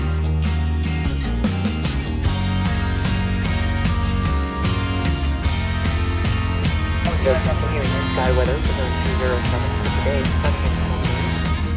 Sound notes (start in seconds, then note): 7.2 indistinctive radio noises